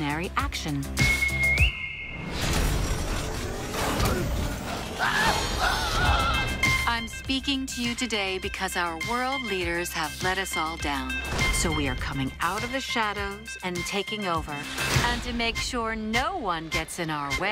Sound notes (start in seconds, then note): 1.0 whistle